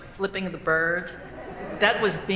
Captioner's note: laughing